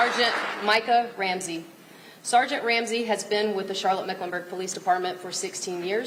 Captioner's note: applause